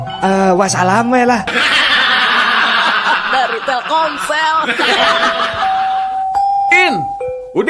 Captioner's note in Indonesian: tertawa